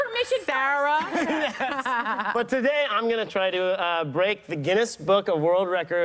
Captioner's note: laughter